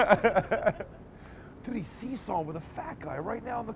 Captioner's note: laughing